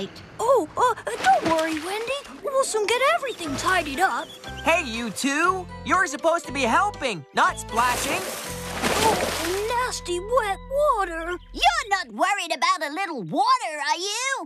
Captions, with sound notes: OH, UH... DON'T WORRY, WENDY. WE'LL SOON GET EVERYTHING TIDIED UP! HEY, YOU TWO! YOU'RE SUPPOSED TO BE HELPING, NOT SPLASHING! ( Splash! ) OHH! NASTY, WET WATER! YOU'RE NOT WORRIED ABOUT A LITTLE WATER, ARE YOU?